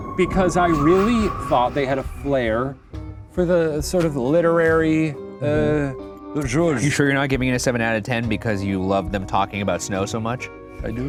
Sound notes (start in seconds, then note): 4.6 speaks in foreign language